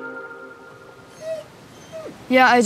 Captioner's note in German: Leises Winseln